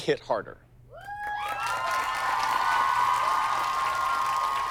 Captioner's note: cheers and applause